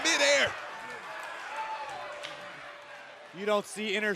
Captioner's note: crowd cheering